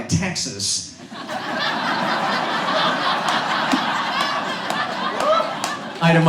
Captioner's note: audience laughs